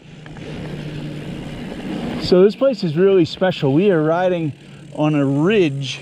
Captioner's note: bike gears whirring